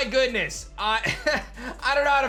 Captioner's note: chuckles